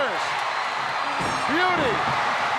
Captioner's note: audience cheering